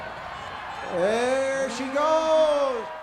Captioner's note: crowd cheers